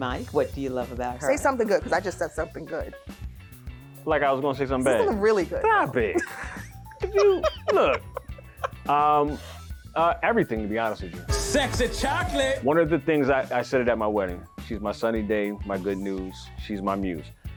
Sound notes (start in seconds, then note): 6.9 laughs